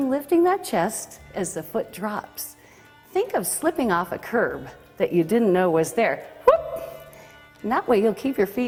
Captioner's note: whoop